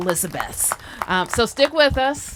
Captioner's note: applause